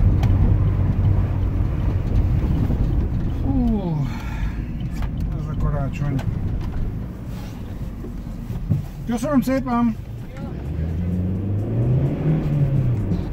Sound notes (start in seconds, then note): 3.8 sigh